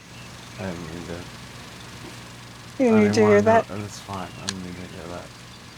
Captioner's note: chuckles